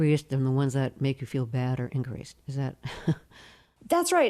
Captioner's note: laughter